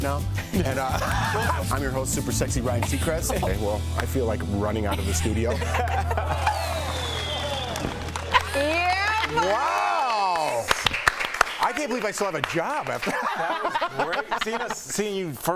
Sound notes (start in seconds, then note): 4.8 laughter